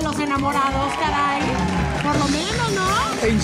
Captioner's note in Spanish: Ovación